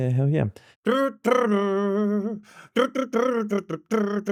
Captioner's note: humming